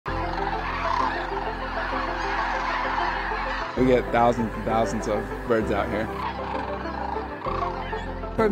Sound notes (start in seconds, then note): 0.0 tranquil music; 0.0 cranes calling